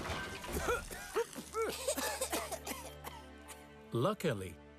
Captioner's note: loud Crashing; coughing